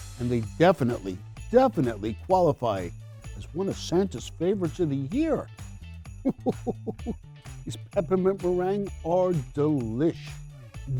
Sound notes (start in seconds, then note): 6.2 chuckles